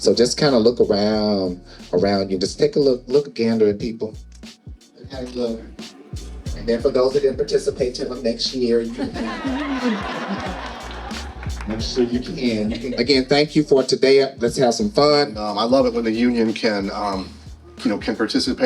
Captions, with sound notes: So just kind of look around you. Just take a look, look and gander at people. See how they look. And then for those that didn't participate, tell them next year. (audience laughing) - Make sure you can-- - And again, thank you for today. Let's have some fun. - I love it when the union can participate